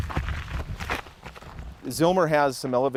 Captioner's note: leaves crunching